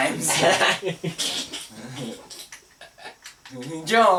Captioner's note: laughs